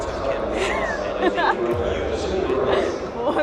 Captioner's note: laughing